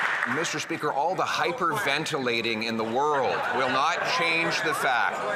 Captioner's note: some Applause